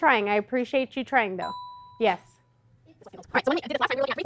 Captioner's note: ding